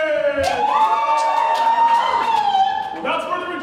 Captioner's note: Texans hooting and hollering